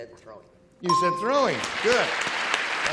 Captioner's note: ding; applause